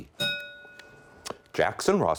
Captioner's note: bell rings